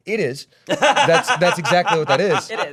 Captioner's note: laughing